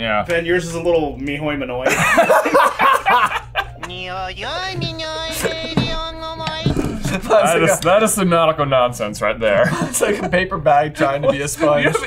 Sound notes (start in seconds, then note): 1.8 laughing; 4.5 speaks in foreign language